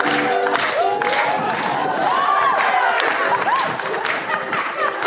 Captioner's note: audience cheering